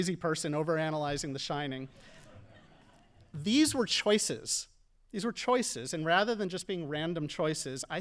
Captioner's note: audience laughing